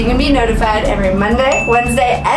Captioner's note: bell dinging